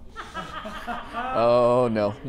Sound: laughing

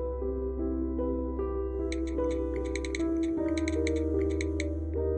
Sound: cellphone typing

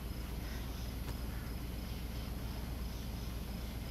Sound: crickets chirping

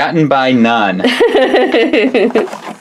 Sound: laughing

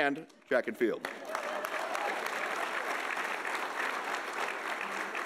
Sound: audience applauding

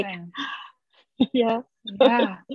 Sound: gasps

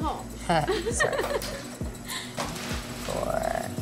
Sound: both laugh

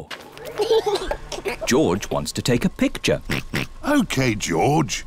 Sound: giggles; oinks

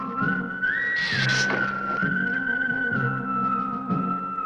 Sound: hissing

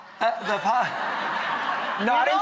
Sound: laughter

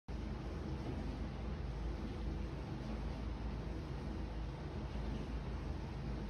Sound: air conditioner noise throughout, no dialog

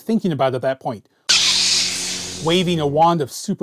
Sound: light saber startup sound

